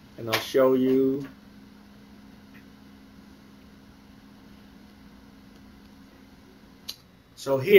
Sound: long pause

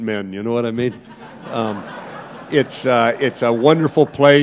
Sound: laughter

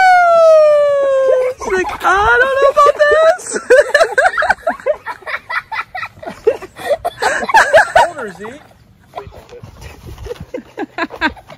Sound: laughter

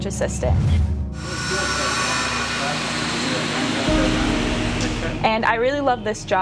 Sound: sound of a buzzing saw

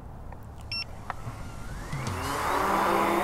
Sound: drone whirs; drone beeps

